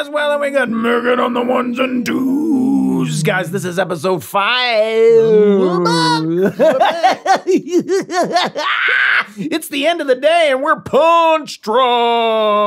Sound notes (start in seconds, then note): 5.2 Glenn laughs; 11.9 laughs